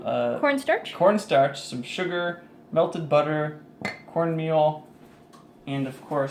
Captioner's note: plink